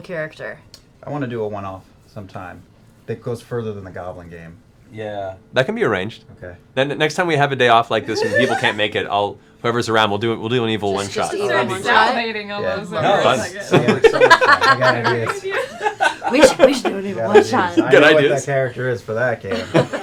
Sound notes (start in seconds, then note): 13.6 laughter; 15.9 evil voice